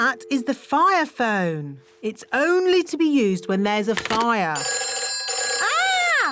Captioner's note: phone rings